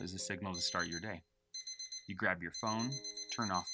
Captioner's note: phone beeping